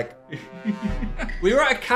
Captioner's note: dramatic music; laughing